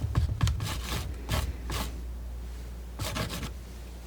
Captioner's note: tapping